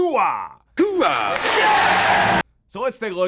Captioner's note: crowd cheering